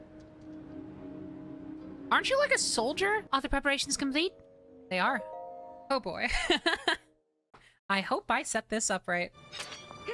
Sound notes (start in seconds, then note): 6.2 laughter